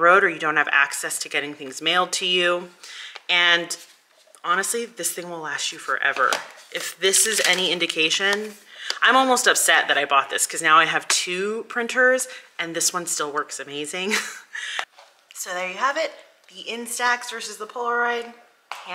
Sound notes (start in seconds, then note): 14.1 chuckles